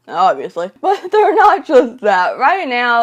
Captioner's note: laughs